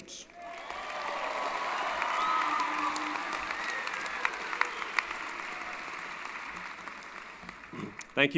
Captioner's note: applause & Cheering